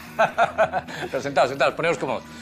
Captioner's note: laughs